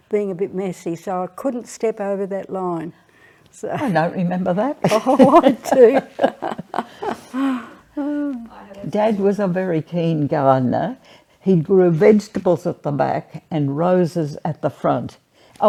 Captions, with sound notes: being a bit messy. So I couldn't step over that line. - I don't remember that. (laughs) - (laughs) Oh, I do. - Dad was a very keen gardener. He grew vegetables at the back and roses at the front.